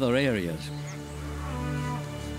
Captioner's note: cows lowing